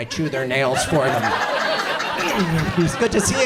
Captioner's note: audience laughs